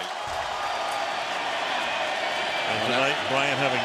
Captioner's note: cheering